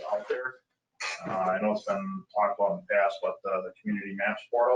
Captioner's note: speaking faintly; speaking faintly